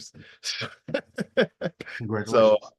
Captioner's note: chuckling